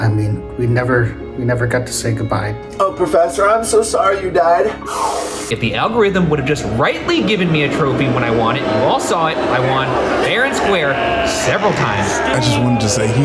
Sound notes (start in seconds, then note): 4.8 can whooshing as mournful mouth fills with cream; 8.6 crowd jeering